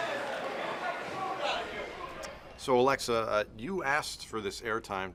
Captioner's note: crowd chatter